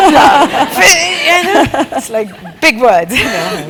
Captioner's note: laugh